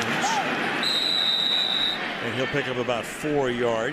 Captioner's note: whistles